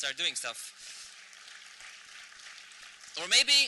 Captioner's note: applause